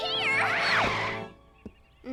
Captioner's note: tires skidding